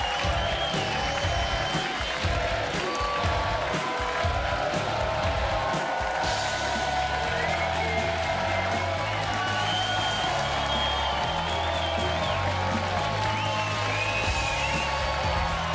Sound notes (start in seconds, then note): 7.1 audience cheering; 12.9 upbeat music